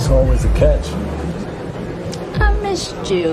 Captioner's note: voiceover